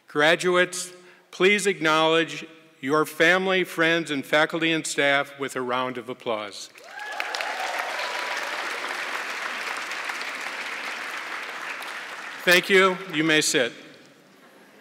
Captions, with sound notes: Graduates, please acknowledge your family, friends, faculty and staff a round of applause. (audience clapping) Thank you, you may sit.